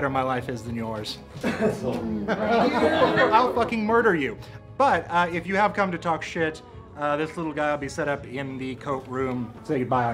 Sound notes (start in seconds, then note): 1.4 laughing; 1.4 coughs